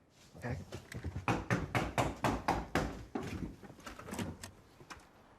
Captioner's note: knocking on door